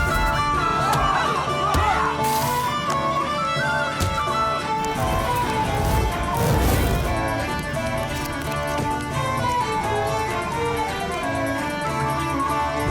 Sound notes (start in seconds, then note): 0.3 medieval music playing; 2.1 punches thudding